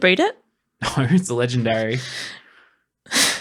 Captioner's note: scoffs; sighs